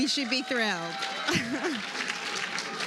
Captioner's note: applause